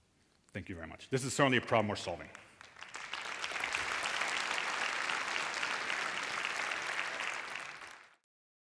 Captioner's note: applause